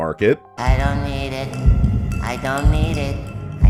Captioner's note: Spongebob audio